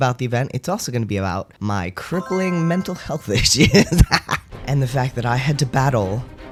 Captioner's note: laugh